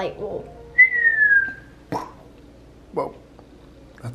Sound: girl whistles

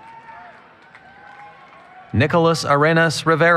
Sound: cheering

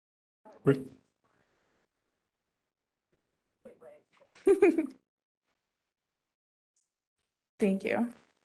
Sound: laugh

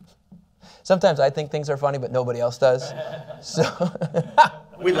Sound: laughter

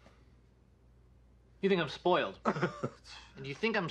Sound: laughs

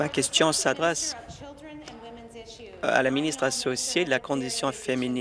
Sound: applause

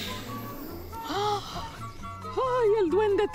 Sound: woman gasps

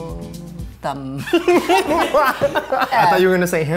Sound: laughing

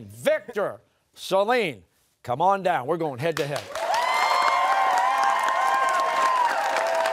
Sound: cheers and applause

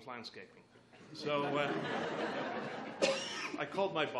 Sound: laughs

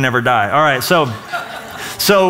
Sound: laughter

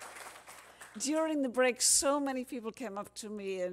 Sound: cheers and applause

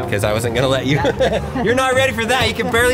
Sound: laughing

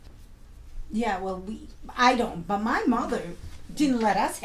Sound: voiceover

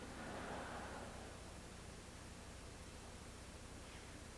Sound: audience laughs

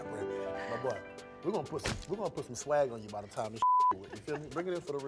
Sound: beep

